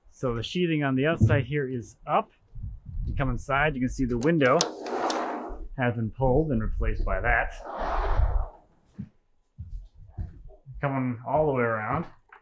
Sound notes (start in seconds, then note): 4.5 door swooshes softly; 7.4 door whooshes softly